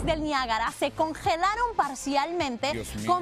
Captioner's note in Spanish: habla en inglés